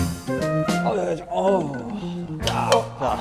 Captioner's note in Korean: 앓는 소리